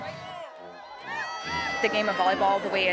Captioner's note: crowd cheering